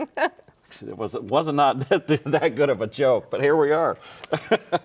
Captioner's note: laughs